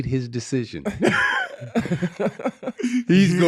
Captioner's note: laughing